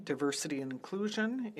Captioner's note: speaking French